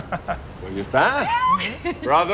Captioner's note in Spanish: Risas